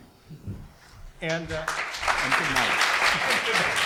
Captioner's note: audience claps